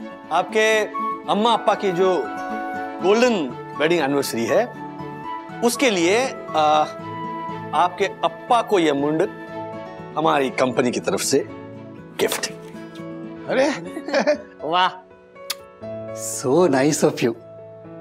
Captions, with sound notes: It is the golden jubilee of your parents' wedding anniversary. So, consider this 'lungi' as a gift from our company for your father. Hey! [giggles] Wow! [smacking lips] So nice of you!